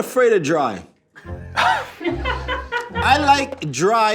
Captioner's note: playful music; everyone laughing